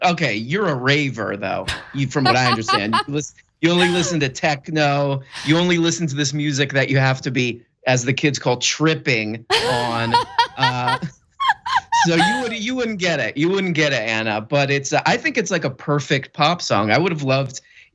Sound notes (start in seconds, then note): 1.6 laugh; 9.5 laugh